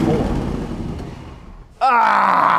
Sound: engine quits

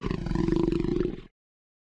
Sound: growling continues

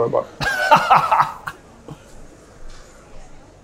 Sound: laughs

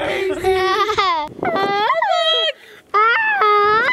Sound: doing a tarzan yell

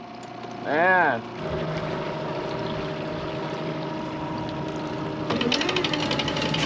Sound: boat engine running; electric motor cranking

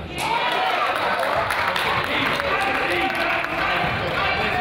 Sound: crowd applauds

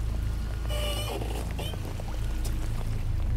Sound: squeaking

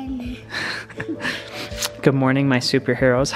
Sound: laughing

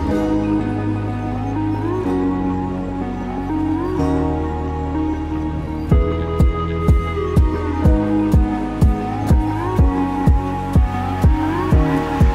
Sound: wind

